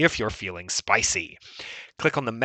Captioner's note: breathes